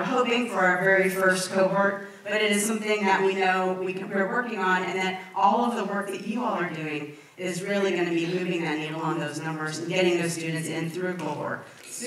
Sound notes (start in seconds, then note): none